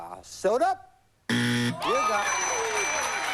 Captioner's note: buzz